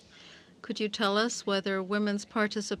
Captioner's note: speaking French